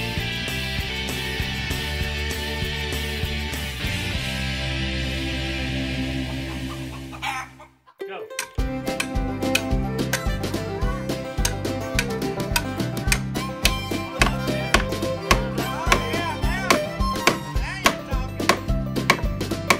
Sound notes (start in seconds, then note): 8.1 hammer sounds and music